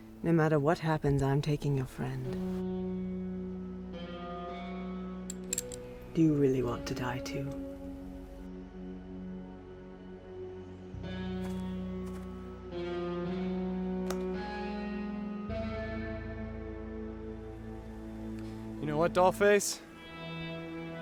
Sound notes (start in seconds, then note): 5.3 gun clicks; 12.0 footsteps; 13.1 holster unclasps